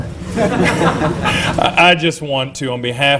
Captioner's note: laughter